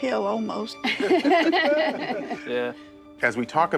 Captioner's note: all laughing